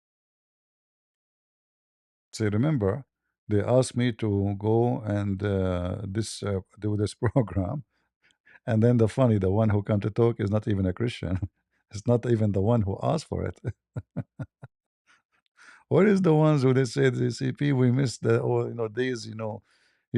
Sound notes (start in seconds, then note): 13.4 ketawa